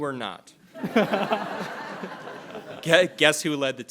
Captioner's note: all laughing